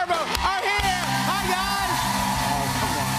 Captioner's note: cheers and applause